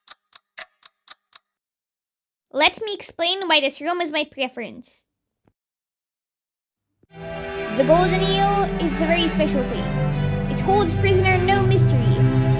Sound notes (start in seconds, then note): none